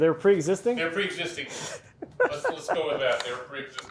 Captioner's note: laughing